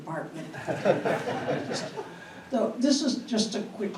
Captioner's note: audience laughing